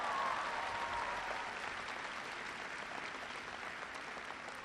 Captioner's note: applause